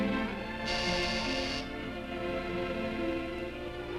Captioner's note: soft orchestral music continues; doorbell buzzes